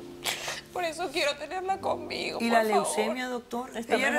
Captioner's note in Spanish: solloza